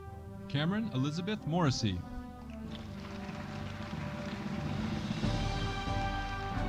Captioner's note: audience applauding